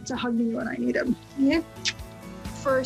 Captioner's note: lips smacking